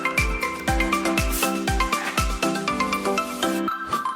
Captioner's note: air freshener noise